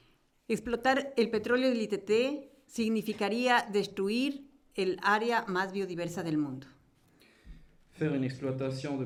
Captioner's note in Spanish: Español